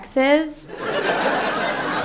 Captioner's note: laughter